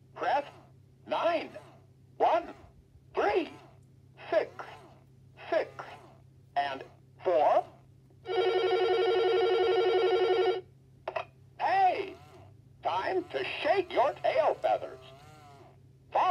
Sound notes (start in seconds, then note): 8.2 phone ringing